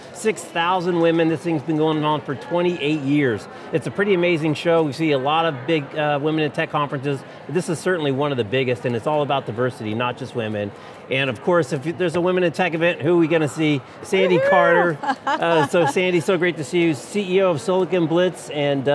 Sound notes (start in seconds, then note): 14.2 laughs